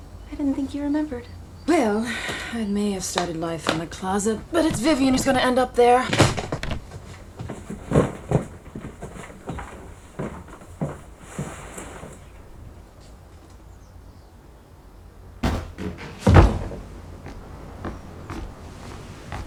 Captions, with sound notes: I didn't think you remembered. Well, I may have started life in a closet, but it's Vivian who's going to end up there. [thuds]